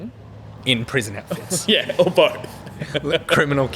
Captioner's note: laughing